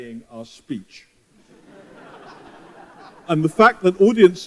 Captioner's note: laughter